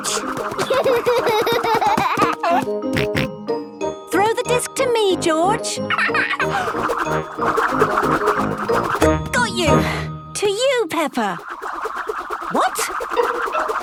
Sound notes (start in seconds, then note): 0.0 giggling; 2.9 snorting; 6.4 laughing